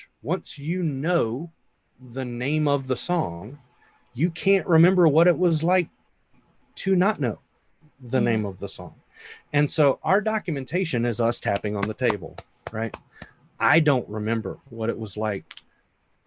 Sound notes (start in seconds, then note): 11.4 hands clapping